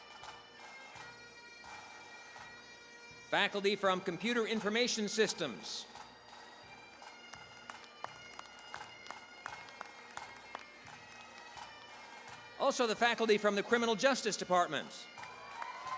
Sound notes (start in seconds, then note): 0.0 bagpipe music; 6.9 applause; 11.2 bagpipe music